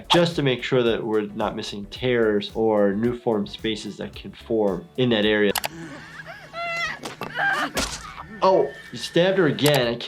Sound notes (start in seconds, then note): 5.6 squelches; 5.7 screaming and sobbing